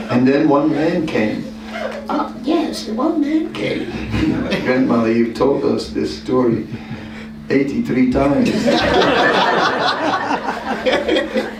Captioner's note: laughter